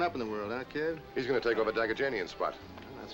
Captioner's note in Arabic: يتمتم